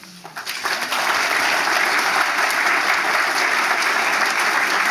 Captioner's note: audience applauding